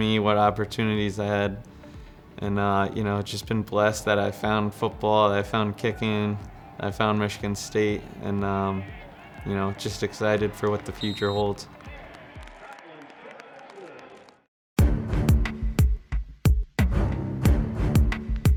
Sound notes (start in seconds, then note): 10.9 whistle screeching; 14.9 intense upbeat music